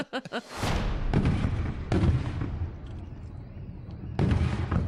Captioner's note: laughing; fireworks crackling